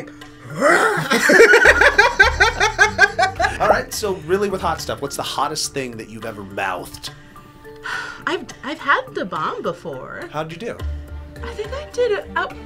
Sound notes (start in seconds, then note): 0.6 laughs; 7.8 sighs